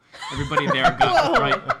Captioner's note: laughing